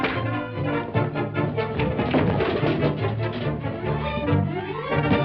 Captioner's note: punching; items falling over